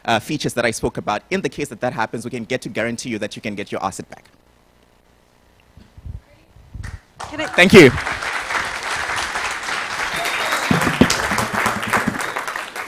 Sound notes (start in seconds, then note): 9.1 applause